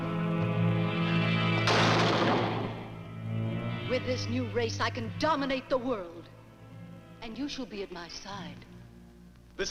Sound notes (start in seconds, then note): 1.6 table slams